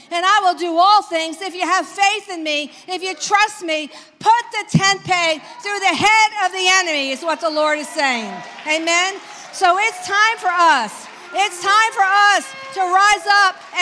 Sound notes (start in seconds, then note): 7.1 congregation cheers